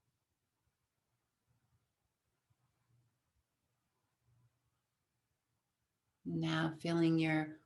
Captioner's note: silence